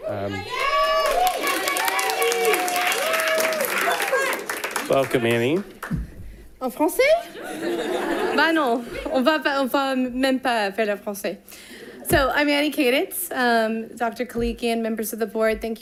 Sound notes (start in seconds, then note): 0.2 audience applauding; 6.9 speaking in a foreign language